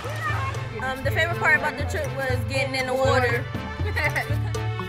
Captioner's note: laughing, screaming; laughter; inquisitive music